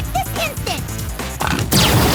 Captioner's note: grumbling